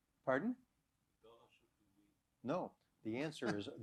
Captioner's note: non-english